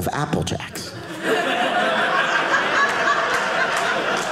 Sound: audience laughing

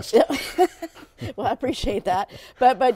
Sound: laughs

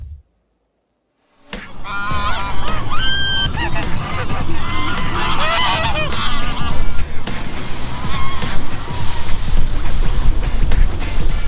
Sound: ducks Quacking

